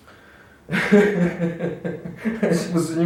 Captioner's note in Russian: смех